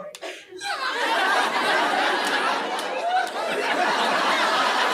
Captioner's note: audience laughing